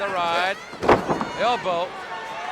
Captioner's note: Sting thudding on ring